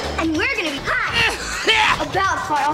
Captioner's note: violent coughing